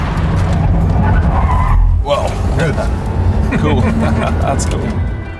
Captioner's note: tyres squealing